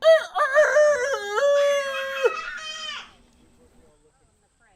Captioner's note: mimicking rooster crowing